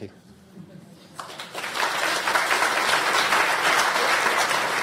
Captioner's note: audience applause